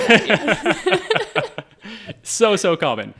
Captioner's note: all laughing